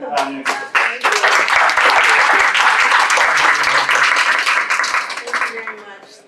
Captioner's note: applause